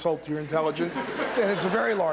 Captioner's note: laughter